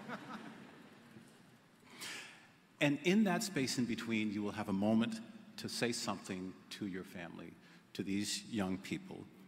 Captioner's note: laughter